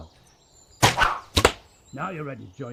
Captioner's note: crossbow snaps